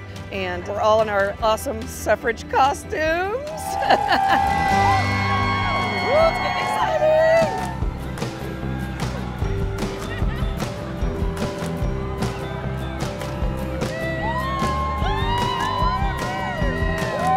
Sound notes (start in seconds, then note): 3.7 crowd cheering; 7.9 bright music; 13.7 crowd cheering